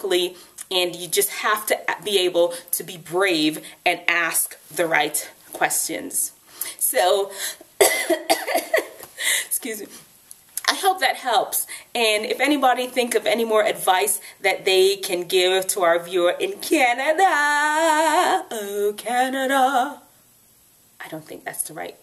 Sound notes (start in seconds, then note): 7.8 coughs; 17.7 sings